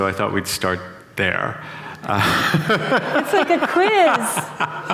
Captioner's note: laughter